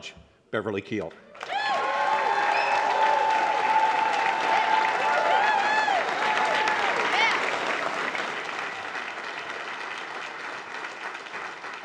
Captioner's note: applause